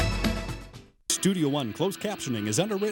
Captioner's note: voiceover